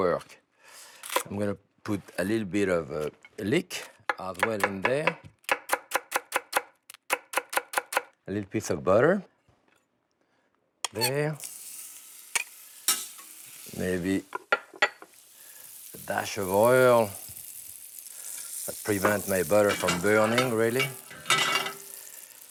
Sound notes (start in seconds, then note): 11.3 sizzling